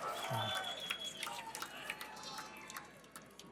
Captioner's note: cheering; applause; cheering